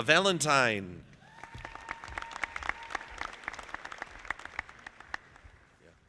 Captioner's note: audience applauding